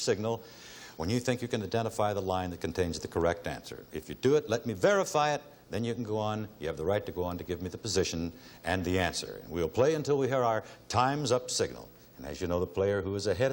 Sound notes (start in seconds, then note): none